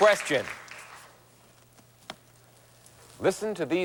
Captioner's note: aH@udiencH@e applH@auding